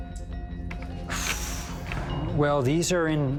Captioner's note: exhales deeply